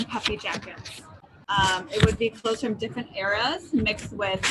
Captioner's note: paper rustling